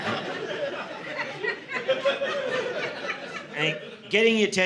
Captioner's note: audience laughing